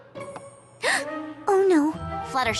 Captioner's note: gasp